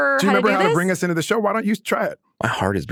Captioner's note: laughs